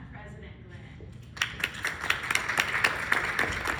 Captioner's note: applause